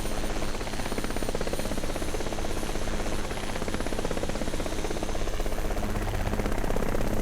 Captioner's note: helicopter Sounds